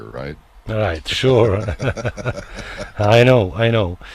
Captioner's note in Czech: smích